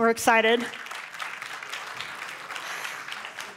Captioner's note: applause